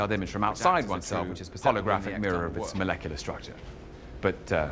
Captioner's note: rambling